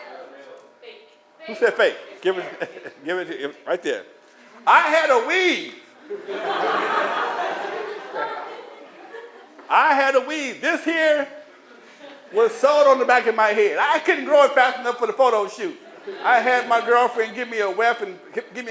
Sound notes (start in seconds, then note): 6.0 laughter